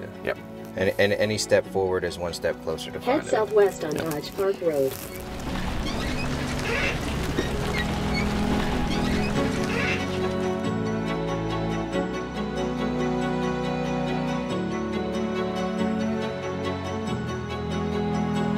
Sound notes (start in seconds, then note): 3.3 GPS Voiceover; 5.6 trailer creaking; 10.9 relaxed music